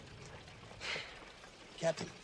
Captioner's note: sighs